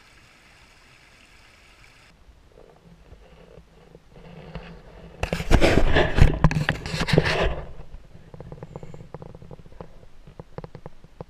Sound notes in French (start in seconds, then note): 5.3 GRINCEMENT DE PENTURE DE GoPro